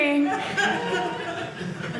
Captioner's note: audience laughing